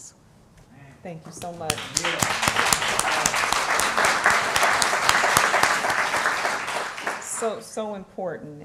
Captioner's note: applause